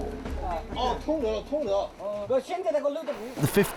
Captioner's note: Chinese spoken audio